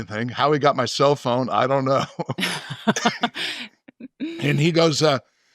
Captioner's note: chuckles